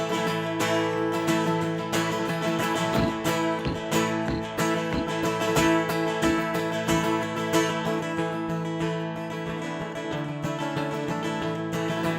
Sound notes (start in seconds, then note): 2.9 boot stomping; 3.1 upbeat guitar music